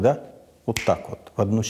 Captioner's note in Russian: щелчок